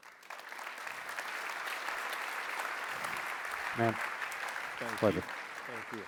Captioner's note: applause